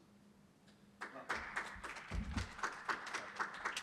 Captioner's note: applause